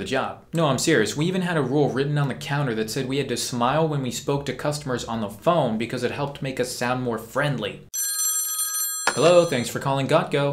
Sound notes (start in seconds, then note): 7.9 phone ringing